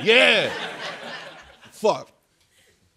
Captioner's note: laughter